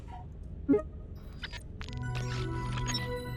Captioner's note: airy digital button; startup tune